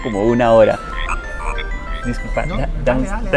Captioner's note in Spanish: suena un teléfono